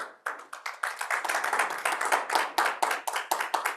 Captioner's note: attendees clapping